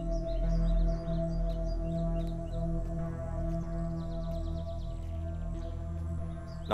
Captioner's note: Footsteps